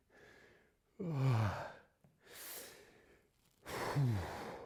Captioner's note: sighing